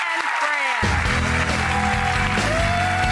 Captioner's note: audience cheering